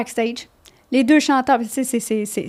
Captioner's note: in french